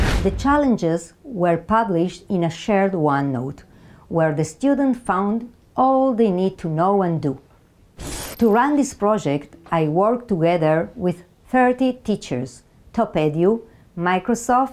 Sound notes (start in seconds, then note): 0.0 slide whooshes; 8.0 slide screeches